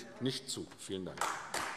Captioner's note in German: Beifall AfD